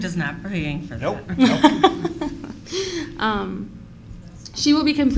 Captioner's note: laughter